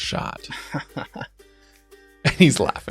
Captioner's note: laughs